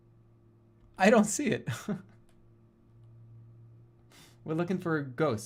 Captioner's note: chuckles